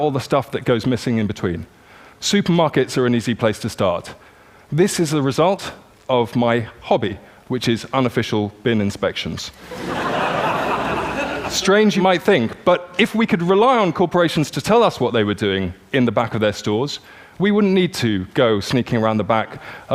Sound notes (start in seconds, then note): 9.6 laughter